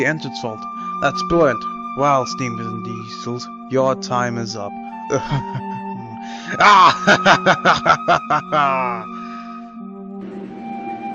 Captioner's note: laughs